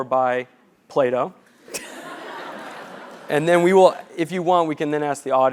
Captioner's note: laugh